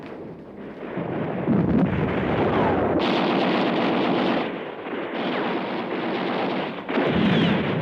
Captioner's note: gunfire